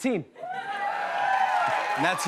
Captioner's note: cheers and applause